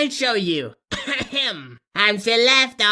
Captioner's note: clears throat; sings